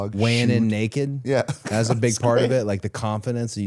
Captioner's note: laughs